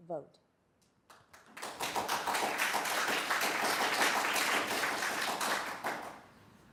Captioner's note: applause